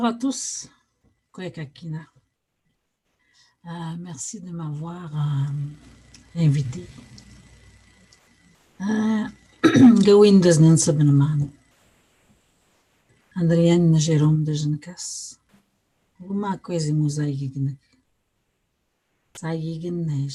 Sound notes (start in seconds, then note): 5.1 foreign language